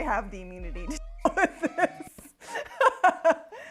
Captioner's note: laughing